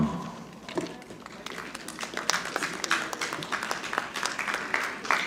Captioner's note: audience clapping